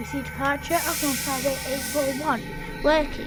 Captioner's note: brakes hissing